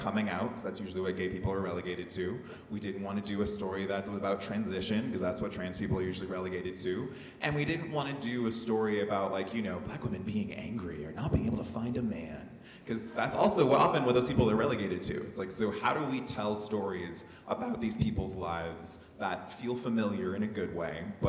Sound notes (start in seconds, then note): none